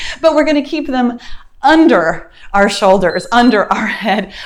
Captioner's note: timer beeps